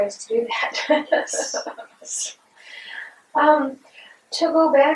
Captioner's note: laughter